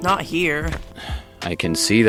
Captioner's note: sigh